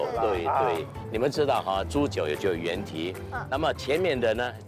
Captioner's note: in Mandarin